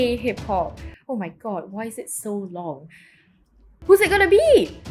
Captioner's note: normal voice